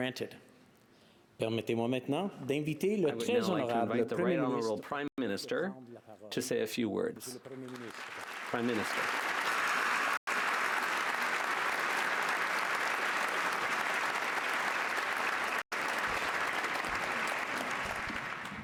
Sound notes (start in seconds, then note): 1.4 applause